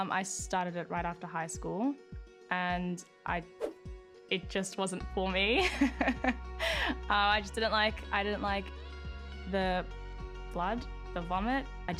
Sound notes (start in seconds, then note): 5.7 laughs